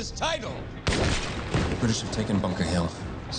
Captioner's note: guns banging